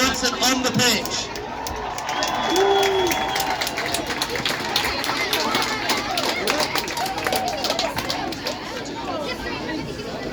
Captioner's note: cheers and applause